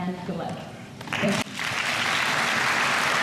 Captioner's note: applause